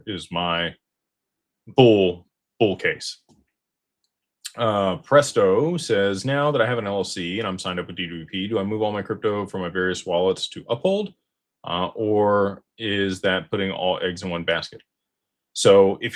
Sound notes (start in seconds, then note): none